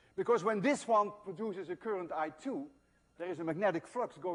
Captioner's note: none